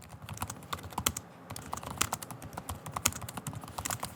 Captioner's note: keyboard clicks